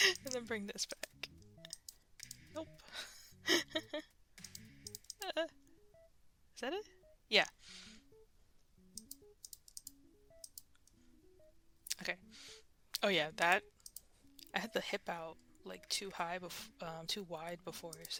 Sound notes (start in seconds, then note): 2.8 laughs; 9.4 mouse Clicking